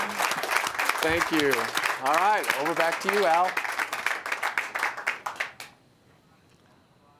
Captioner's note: applause